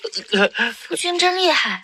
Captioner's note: cough cough